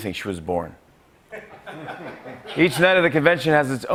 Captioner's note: laughter